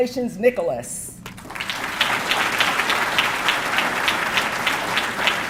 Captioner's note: audience clapping